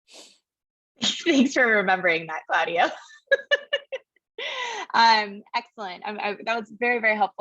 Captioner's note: laugh